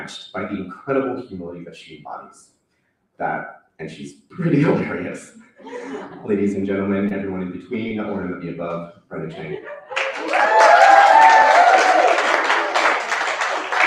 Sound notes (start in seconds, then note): 9.8 cheering; 9.9 applause